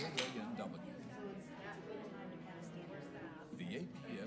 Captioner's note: people conversing